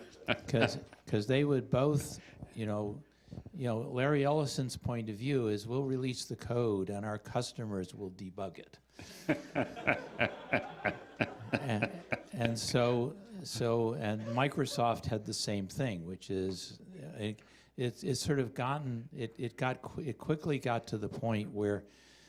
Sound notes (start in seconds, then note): 0.0 chuckling; 9.0 laughter